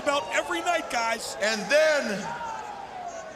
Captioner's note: crowd cheering